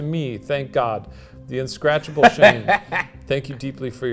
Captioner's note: laughing